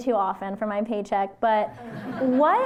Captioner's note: laughter